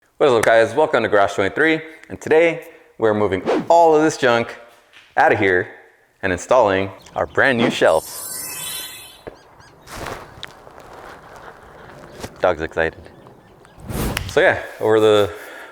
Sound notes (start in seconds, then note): 7.8 sparkle